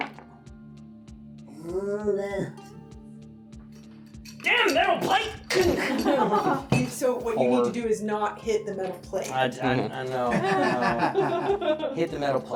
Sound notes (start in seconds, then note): 0.1 straining noises; 4.2 wrench hitting noises; 4.9 laughing